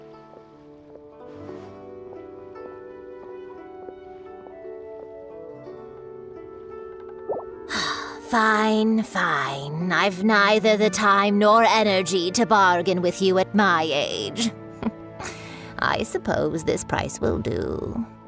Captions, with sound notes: *sigh* Fine, fine. I've neither the time nor energy to bargain with you at my age. I suppose this price will do.